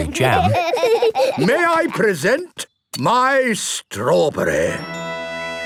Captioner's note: laughing